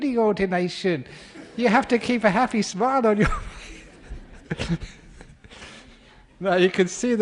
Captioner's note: laughter